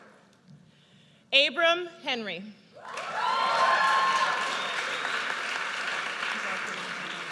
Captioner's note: audience cheers